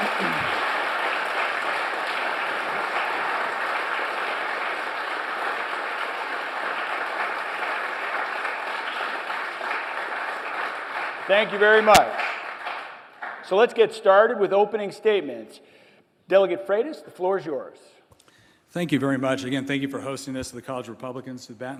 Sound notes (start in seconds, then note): 7.4 applause